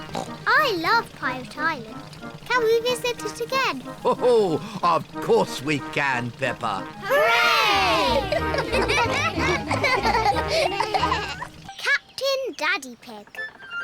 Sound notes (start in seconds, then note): 0.0 oinks; 7.8 all laugh